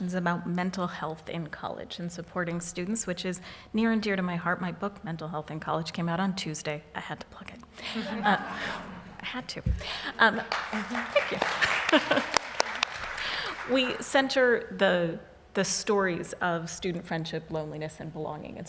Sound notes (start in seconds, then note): 7.8 laughs; 10.3 applause